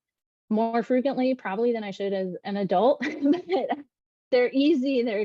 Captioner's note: laughs